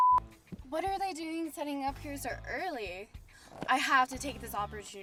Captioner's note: beep